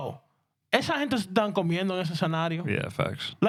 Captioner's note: speaking In Spanish